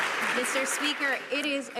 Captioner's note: some Applause